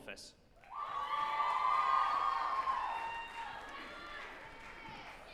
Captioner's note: group applauding and cheering